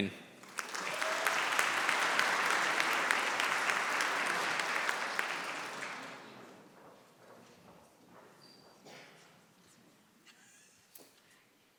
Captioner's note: applause